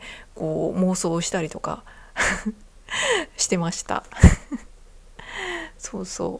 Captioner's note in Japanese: 笑い